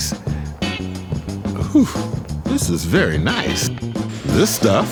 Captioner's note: sighs